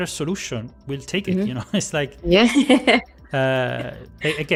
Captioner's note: laughs